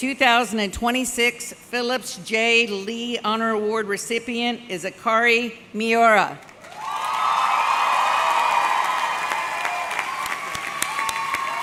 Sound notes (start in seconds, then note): 6.4 audience clapping; 8.5 audience cheering